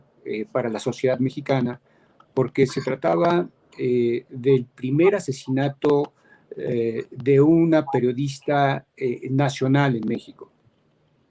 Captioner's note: speaking in Spanish